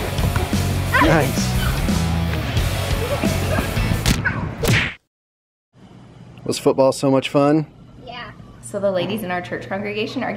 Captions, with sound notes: Nice. (laughing) Was football so much fun? - Yeah. - So the ladies in our church congregation